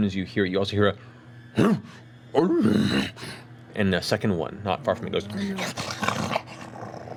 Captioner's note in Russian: встревоженный рык; рычит